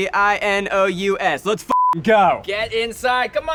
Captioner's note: beeps